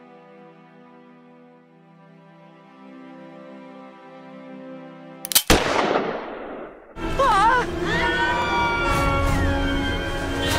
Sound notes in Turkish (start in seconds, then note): 5.3 atış